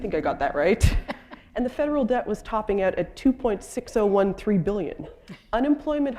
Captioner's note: chuckle